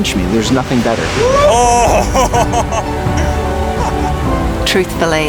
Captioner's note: laughing